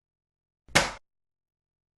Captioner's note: bang